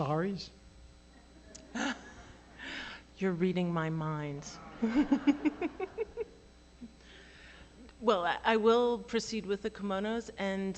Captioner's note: laughter